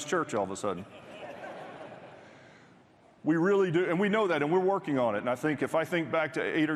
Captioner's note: applause